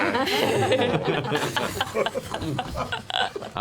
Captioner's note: laughter